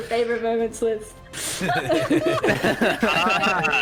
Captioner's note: all laughter